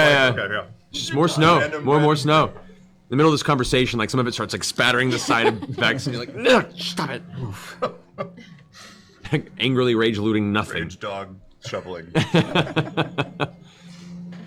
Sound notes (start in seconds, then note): 12.2 laughs